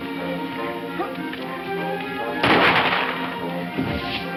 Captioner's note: gunshot